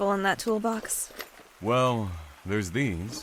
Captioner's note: rustling; toolbox opens